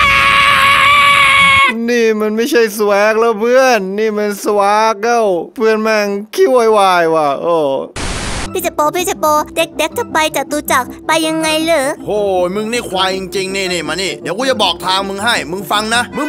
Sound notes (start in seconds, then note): 4.9 shouting